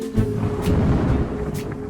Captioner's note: suspenseful music; suspenseful music continues; thunder booming